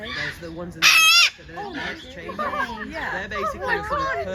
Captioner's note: blue throated macaw squawks very loudly, visitors laugh in surprise